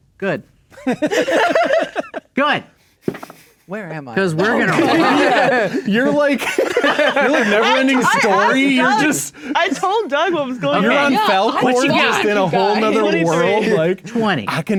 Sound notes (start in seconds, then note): 0.8 players laughing; 3.1 dice rolling; 3.7 players laughing; 5.1 players laughing